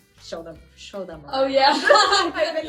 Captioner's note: laughs